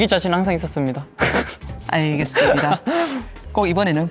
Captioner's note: laughs